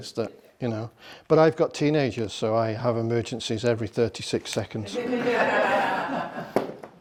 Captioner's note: laughter